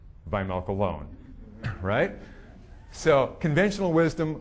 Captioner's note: audience chuckling